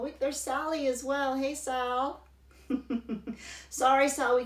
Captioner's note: laughs